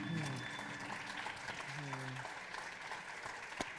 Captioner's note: audience applauding